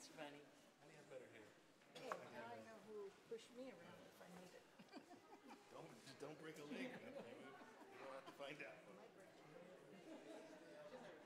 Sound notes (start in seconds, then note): 5.4 laughs